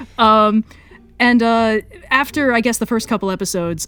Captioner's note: laughs